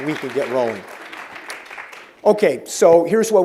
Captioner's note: applause